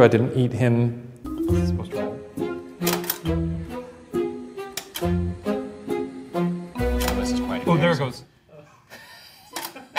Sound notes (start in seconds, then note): 1.3 mysterious music; 2.9 button clicking